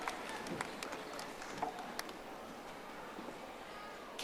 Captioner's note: audience applauding